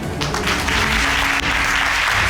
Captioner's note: audience applauding